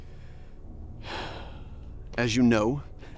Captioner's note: Cortez sighs